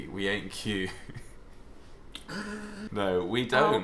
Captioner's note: laughing